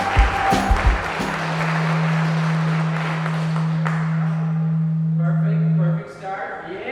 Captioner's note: audience cheering; microphone feedback ringing